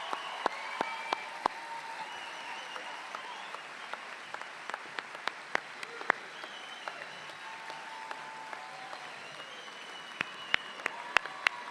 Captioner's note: applause